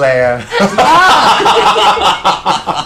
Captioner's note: laughter